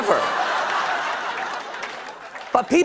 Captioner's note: laughter